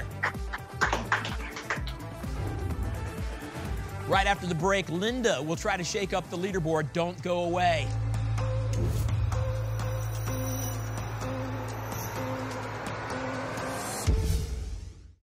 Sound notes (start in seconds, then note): 0.1 applause; 2.2 whoosh; 8.7 whoosh; 14.0 whoosh